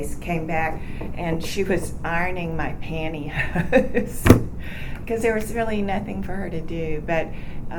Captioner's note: laughs